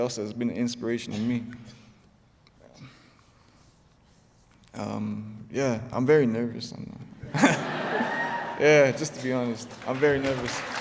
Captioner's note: laughter; applause